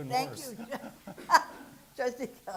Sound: laughing

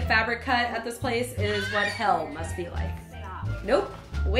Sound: child screaming

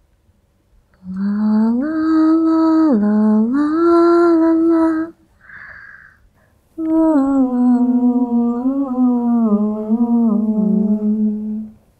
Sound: humming

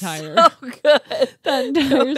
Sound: laughs

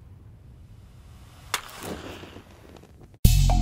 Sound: match strikes

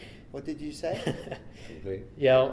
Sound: laughs

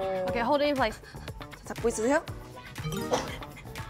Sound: gulp

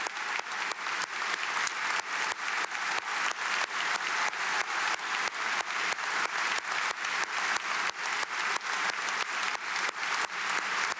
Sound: applause

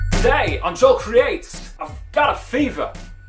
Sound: Christopher Walken impression

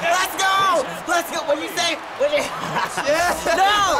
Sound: laughs

